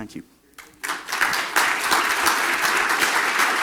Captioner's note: clapping